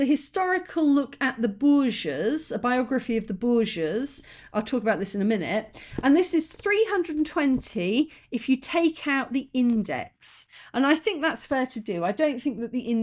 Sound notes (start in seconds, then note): none